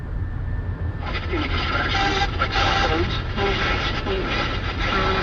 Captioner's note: static buzzing